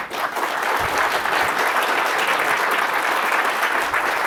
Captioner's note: audience applauds